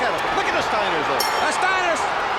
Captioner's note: audience cheers